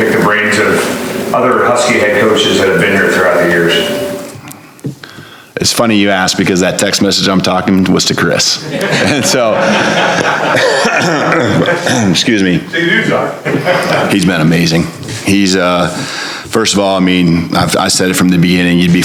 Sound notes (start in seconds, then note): 9.8 coughs